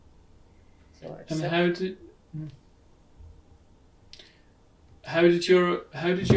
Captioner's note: pauses for 6 seconds; pauses for 3 seconds